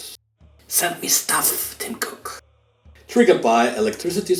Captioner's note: whispered